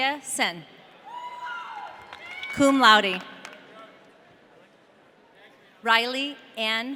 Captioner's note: audience cheering